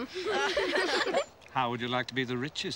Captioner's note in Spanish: los niños se ríen